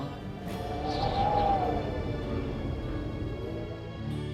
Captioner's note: wind whistling